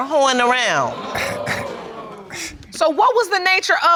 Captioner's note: audience exclaims